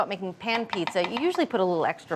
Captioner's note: brush tapping